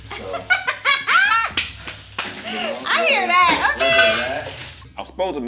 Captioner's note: laughs